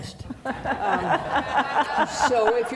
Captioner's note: audience laughing